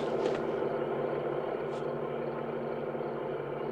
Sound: engine idling

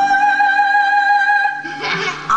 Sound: child giggles

